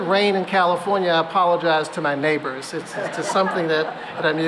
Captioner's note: laughter